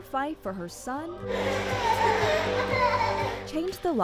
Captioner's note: child laughing